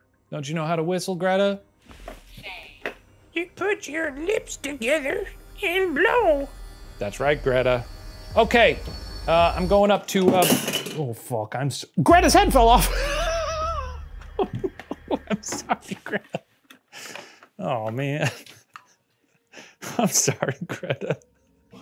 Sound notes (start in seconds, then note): 10.3 object crashes; 12.6 laughing; 19.8 laughing